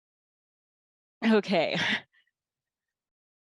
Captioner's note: sighs